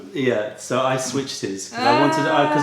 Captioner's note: french